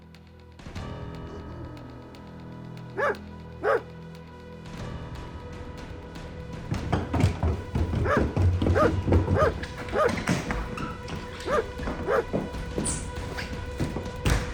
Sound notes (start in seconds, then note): 0.1 dramatic music; 3.6 dog barking; 6.7 banging; 8.0 barking; 11.3 banging